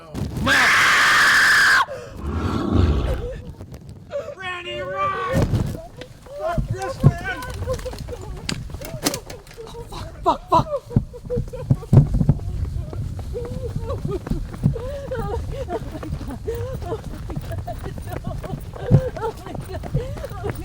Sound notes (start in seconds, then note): 0.4 gritando; 4.1 sollozando; 13.2 sollozando